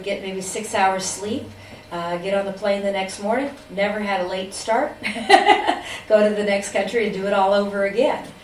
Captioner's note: laughs